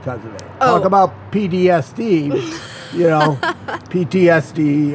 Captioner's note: laughs